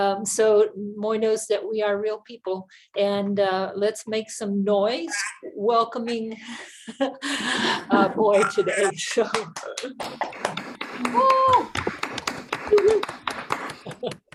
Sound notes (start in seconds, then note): 6.5 microphone feedback; 10.3 applause and cheering